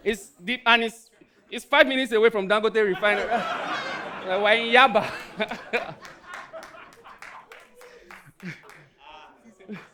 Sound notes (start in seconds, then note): 3.7 audience laughing